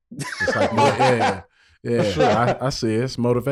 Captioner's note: Rel laughing